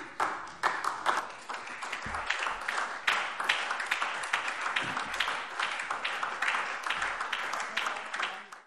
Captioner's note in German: Beifall SPD und BÜNDNIS 90/DIE GRÜNEN